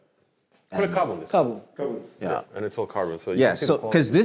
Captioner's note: men speaking Japanese